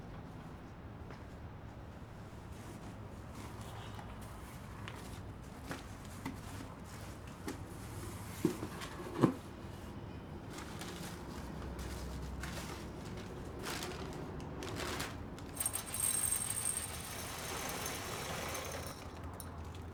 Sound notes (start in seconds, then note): 15.5 rattling